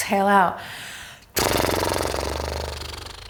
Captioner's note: blows raspberry